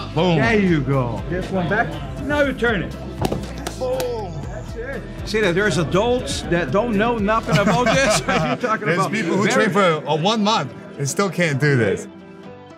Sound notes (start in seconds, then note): 7.4 men laugh